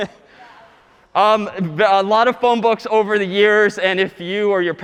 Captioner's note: laughing